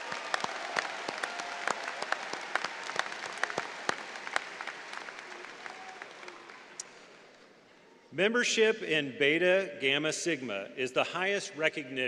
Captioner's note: applause